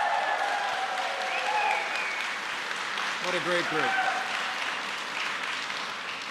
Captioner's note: applause